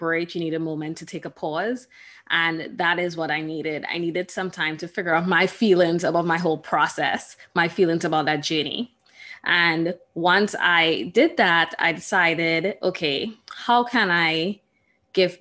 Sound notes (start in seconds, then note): none